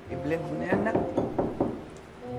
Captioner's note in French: knocking on door